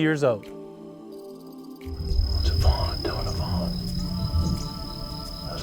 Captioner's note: whispering